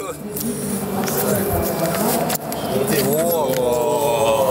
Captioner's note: airport sounds